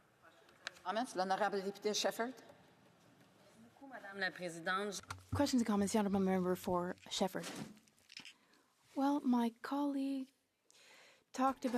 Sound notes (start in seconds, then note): 6.4 speaking French